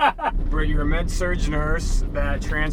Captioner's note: laughs